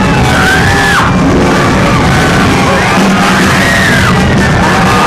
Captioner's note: woman screams